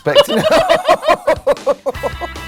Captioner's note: laughs; upbeat music